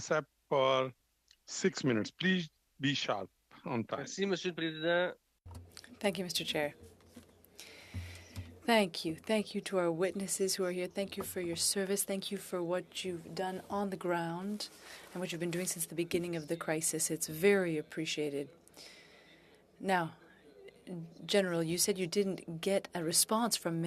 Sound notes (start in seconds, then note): 11.7 speaking in French